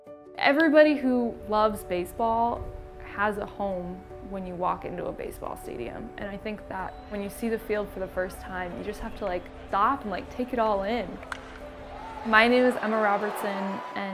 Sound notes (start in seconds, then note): 9.0 crowd cheering; 11.1 bat cracking; 11.1 crowd cheering